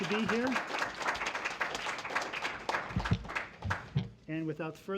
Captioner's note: applause